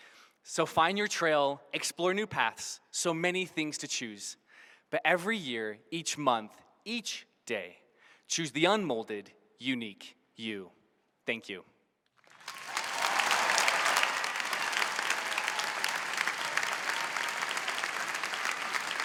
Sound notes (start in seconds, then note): 12.2 applause